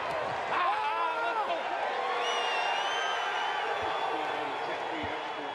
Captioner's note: shouts